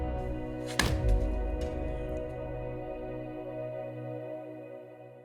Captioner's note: bat cracking